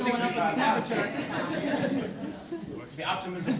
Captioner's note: corporate laughter